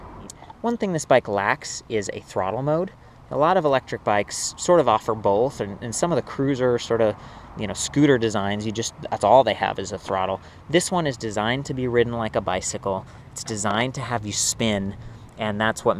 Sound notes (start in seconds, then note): none